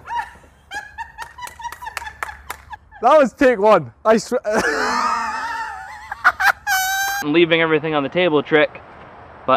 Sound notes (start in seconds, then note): 0.0 woman laughs loudly off screen; 4.4 laughs loudly